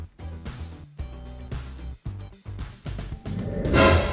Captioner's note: shoong